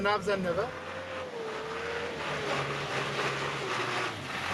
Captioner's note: truck throttling